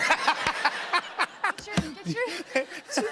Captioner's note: laughter